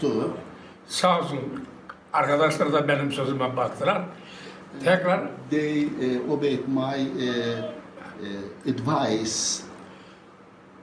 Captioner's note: foreign language